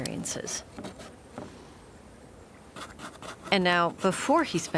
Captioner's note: brush scratching